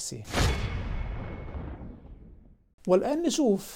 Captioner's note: sound effect